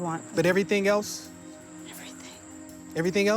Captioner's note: whispering